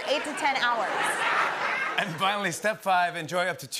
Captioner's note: laughter